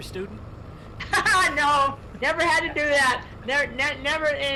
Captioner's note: laughs loudly